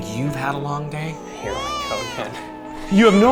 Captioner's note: baby cries